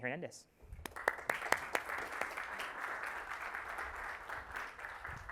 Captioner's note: audience applauding